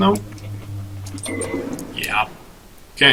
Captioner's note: door creak